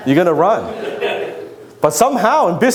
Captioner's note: audience laughs